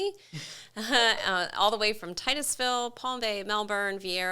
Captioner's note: both chuckles